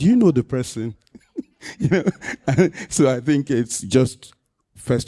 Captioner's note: laughter